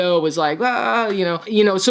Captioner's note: groans